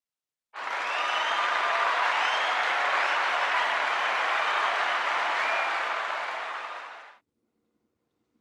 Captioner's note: cheers and Applause